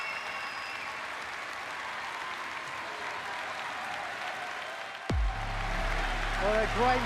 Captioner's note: crowd cheering